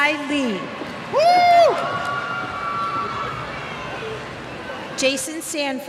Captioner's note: cheers